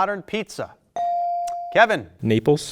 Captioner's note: buzzer dings